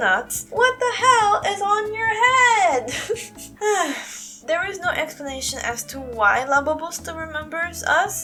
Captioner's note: sigh